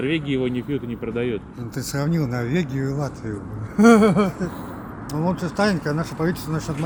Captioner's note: laughing